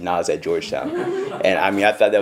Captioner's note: audience chuckles